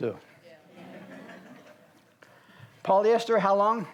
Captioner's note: audience laughs